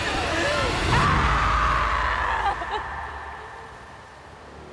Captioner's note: sobs; screams